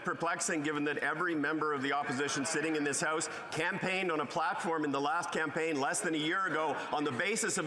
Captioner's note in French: voix de l'interprète